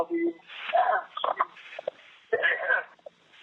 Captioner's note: coughs